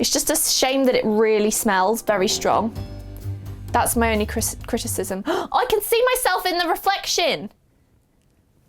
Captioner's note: gasp